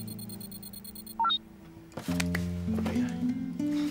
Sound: computer beeps

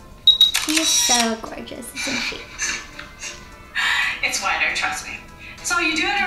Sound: camera shutters

